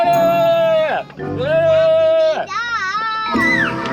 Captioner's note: goofy sounds